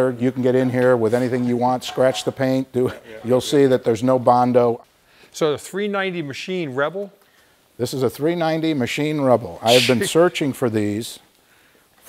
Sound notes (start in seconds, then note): 1.8 laughs; 9.7 laughing